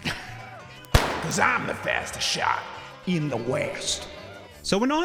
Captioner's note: gunshot sound